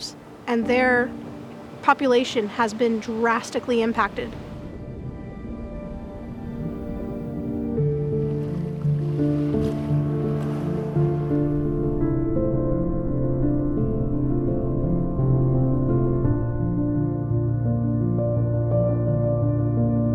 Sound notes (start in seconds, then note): 7.0 music swells; 9.3 gentle water rushing; 12.3 deep gurgles